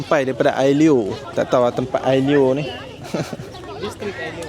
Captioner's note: laugh